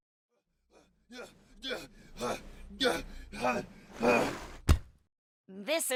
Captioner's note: panting